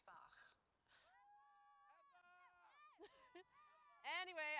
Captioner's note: shouting in the distance